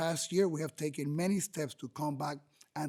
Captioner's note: speaking spanish